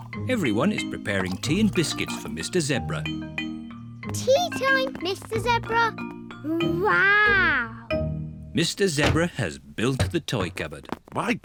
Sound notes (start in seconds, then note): none